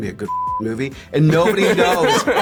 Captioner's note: laughter